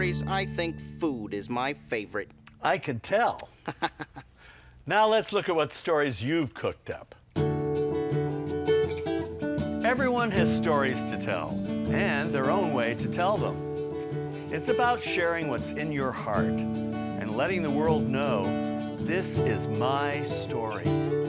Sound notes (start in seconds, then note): 3.6 laughing; 7.6 upbeat music